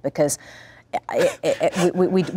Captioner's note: laughing